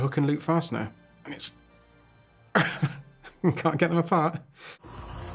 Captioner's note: grunts